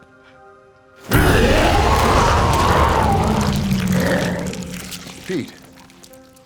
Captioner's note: Pete wails; dramatic music